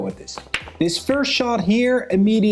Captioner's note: pool balls clacking